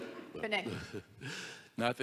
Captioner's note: audience laughs; chuckles